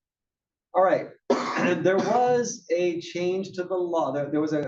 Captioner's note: cough